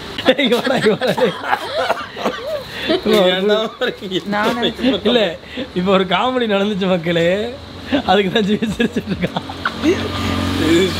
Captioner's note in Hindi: हँसी